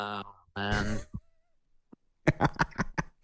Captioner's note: laughing